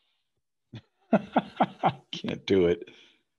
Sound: laughs

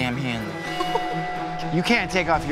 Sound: woman laughs

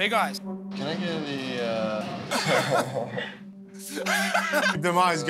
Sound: laughs

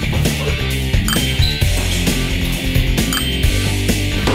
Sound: score dings; score dings

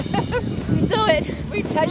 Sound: laughs

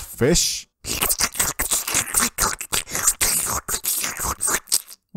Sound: audible fish sucking sounds

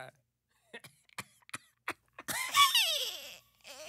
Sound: laughter; squeals

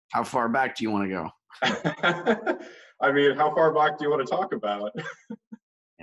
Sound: laughing

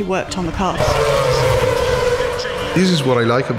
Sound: engines revving

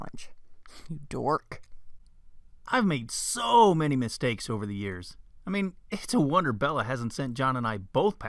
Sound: man's voice

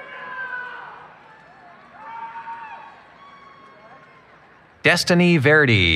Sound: cheering

